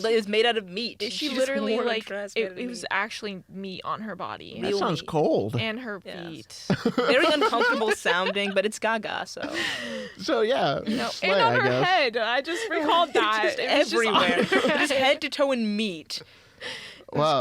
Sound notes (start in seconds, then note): 6.7 laugh; 10.9 laughs